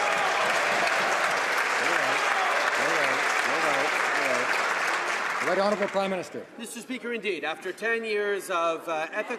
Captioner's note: some Applause